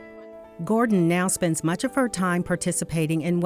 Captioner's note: voiceover